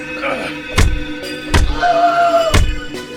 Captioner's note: punches thudding; Master screaming